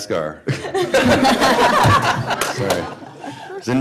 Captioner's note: laughter